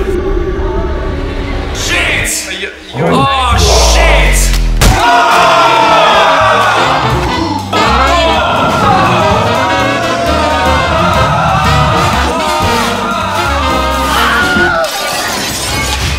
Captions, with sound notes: It fuckin hurts.. Shit! Oh, shit! (door breaks) (Jazz music plays) (wilhem scream) (glass shatters loudly)